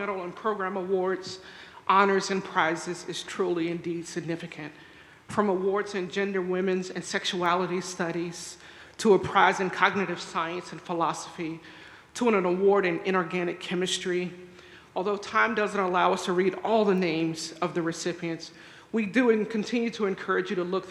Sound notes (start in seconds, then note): none